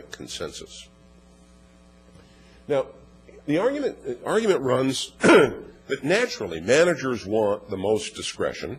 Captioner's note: cough